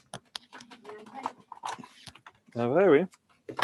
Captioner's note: indistinct conversation